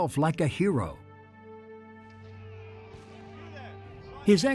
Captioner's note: men shouting